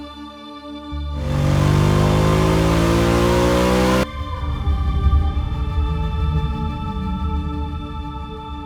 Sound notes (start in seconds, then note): 1.2 motorcycle roaring